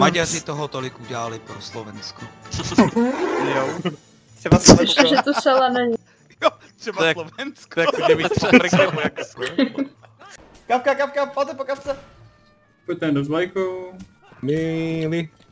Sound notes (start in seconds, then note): 2.8 laughing ironically; 7.7 laughter